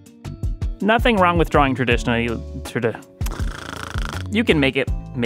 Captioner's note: snoooore